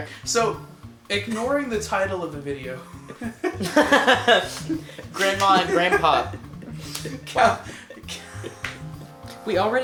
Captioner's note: laughs